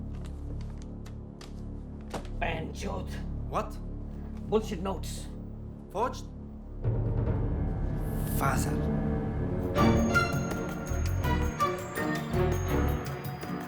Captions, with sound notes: (speaking foreign language) - What? - Butchered notes! - Forged? Fazal! (suspenseful music)